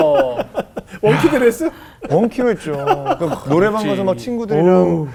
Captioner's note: laughing